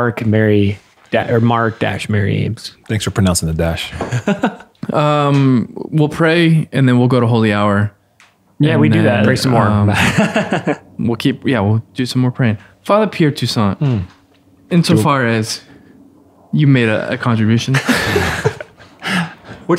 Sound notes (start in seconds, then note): 3.9 laughing; 9.6 laughing; 17.7 all laughing